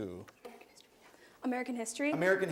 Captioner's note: whispers